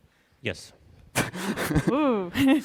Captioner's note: chuckling